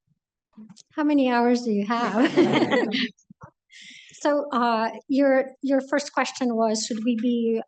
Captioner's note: laughter